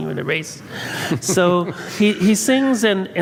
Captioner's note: laughs